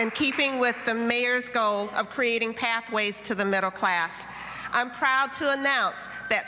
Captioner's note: applause